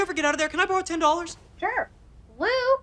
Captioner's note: voiceover